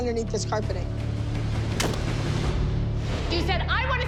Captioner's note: crunching snap